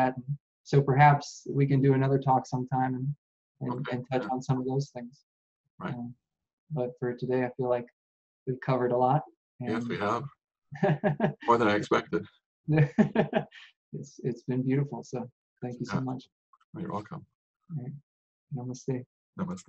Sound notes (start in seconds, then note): 10.8 laughing